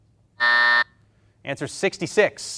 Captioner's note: buzzer beeps